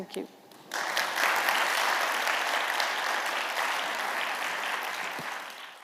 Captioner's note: applause